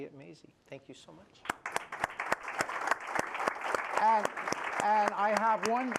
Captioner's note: applause